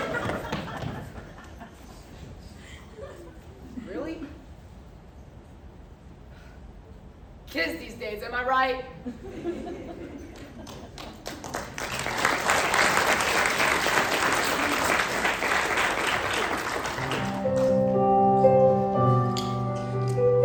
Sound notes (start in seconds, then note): 0.0 crowd Giggling; 6.5 sighs; 8.8 applause